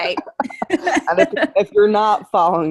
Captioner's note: both laughing